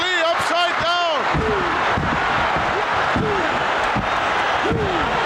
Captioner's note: audience cheering